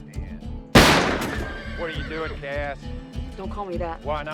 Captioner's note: horse whinnies